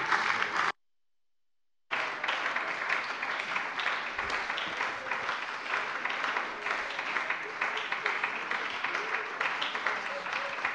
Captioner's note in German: Anhaltender Beifall bei der SPD